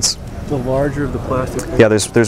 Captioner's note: voiceover